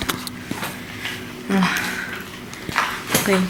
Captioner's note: sigh